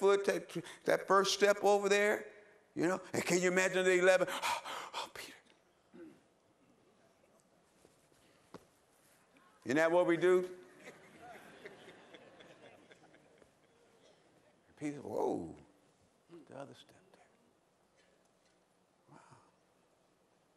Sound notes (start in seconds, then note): 4.2 breathing heavily; 10.7 laughter